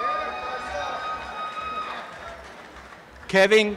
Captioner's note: applause and cheering